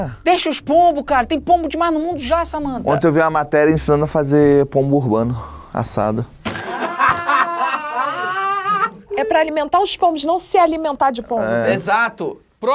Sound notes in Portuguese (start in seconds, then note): 6.4 risadas